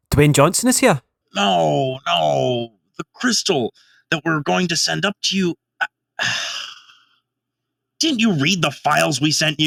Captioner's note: sigh